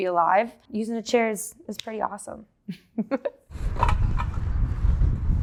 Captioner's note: laughing